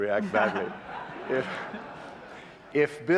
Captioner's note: laughter